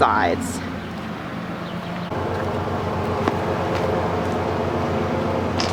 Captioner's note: lawn mower engine roars